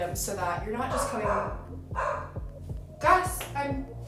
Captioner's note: barking